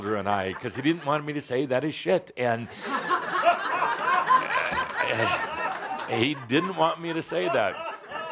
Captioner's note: lots of laughter